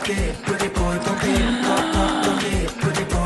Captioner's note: gasp